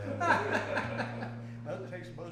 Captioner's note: group laughs